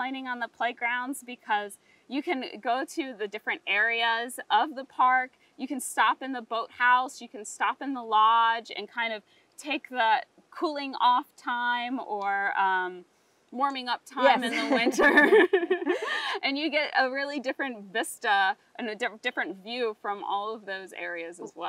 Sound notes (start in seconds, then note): 14.3 both giggling